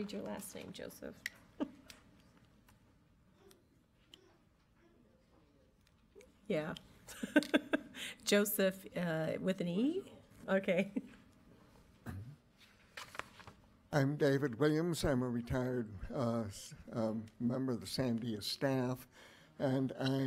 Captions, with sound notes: I can't read your last name, Joseph. Yeah, (laughs), Joseph with an E? Okay. - I'm David Williams. I'm a retired member of the San Diego staff and I,